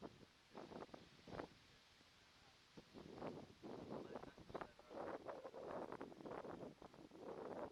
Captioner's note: sound - Noise of wind blowing across the camera microphone